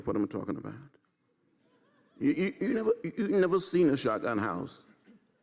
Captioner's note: laugh